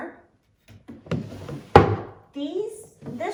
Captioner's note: drawer closes